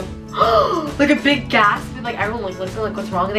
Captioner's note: gasping